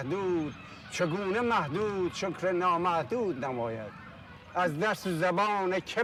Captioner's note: speaking in Farsi